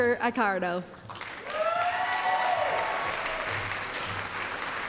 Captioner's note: applause, cheering